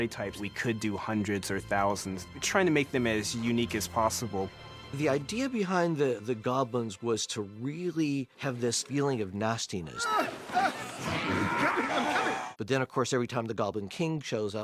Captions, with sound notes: ...we could do hundreds or thousands, trying to make them as unique as possible. The idea behind the Goblins was to really have this feeling of nastiness. [BILBO GRUNTING] But of course every time the Goblin king shows up--